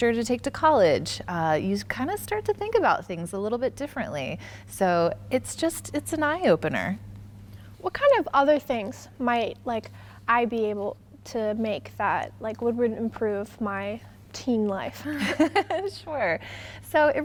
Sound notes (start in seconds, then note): 15.1 both laughing